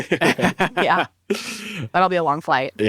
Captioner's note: all laugh